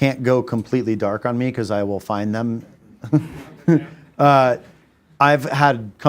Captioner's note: laughs